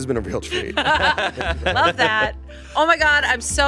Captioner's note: all laughing